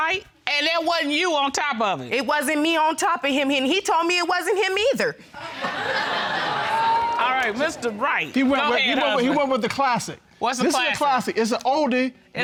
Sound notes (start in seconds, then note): 5.3 audience laughing